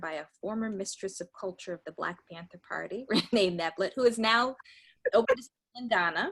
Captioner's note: laughs